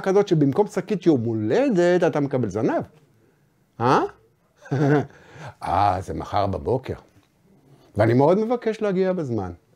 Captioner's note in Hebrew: צוחק